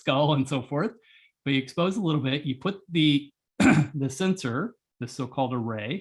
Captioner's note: cough